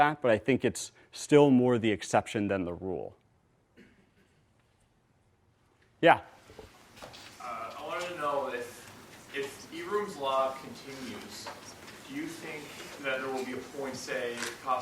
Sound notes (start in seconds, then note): 7.9 voiceover